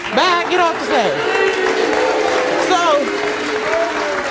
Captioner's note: audience boos